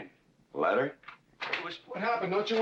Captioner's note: door opens